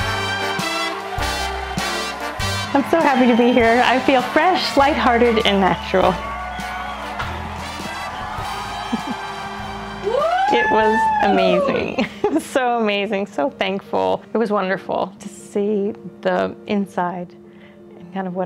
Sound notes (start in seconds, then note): 0.1 audience cheering continues; 7.4 audience cheering continues; 10.0 woman whoops